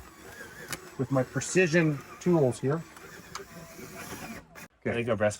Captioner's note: drill droning